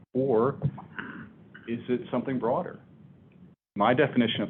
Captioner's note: none